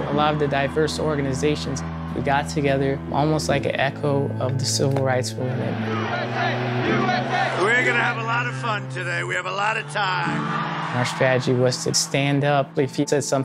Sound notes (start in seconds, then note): 5.7 crowd